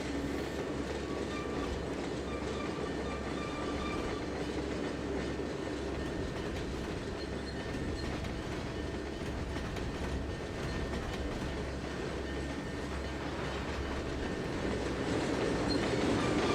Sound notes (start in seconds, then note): 2.2 train whistle